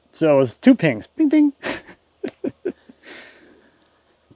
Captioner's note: laughing